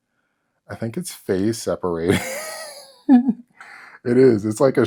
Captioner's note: weak laughter